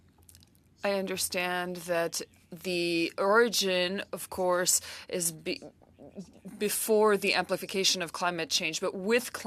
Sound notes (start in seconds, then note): 2.6 speaking French